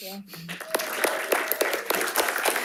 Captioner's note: panelists cheering and applauding